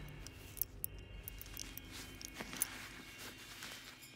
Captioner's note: necklace jangling